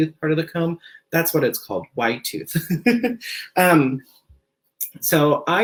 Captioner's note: laughs